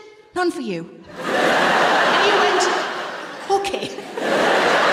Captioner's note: laughter